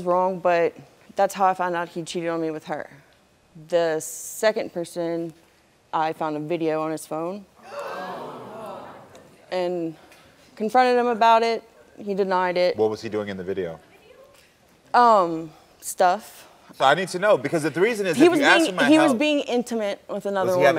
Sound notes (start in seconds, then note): 7.6 audience gasping